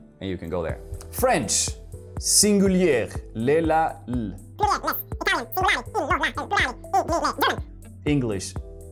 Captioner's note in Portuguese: idioma estrangeiro 00:05:04